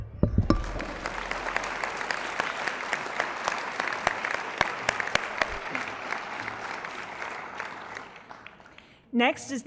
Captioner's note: applause